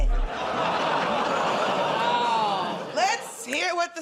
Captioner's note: laughter